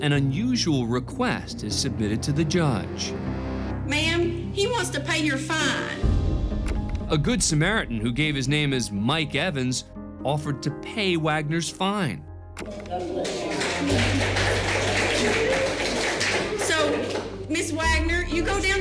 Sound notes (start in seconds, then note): 12.7 clapping